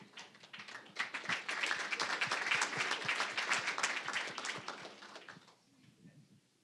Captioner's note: applause